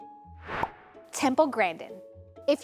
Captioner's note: transition whooshes; funky piano music